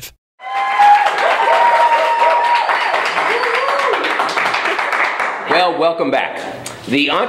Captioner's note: cheering and applause